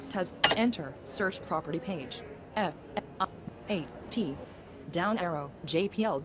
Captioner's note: beep